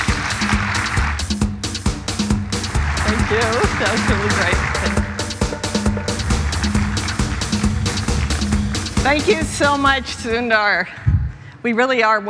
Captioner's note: applause